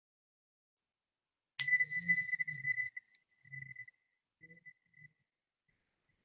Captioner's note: bells ringing